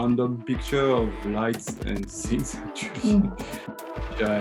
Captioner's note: laughs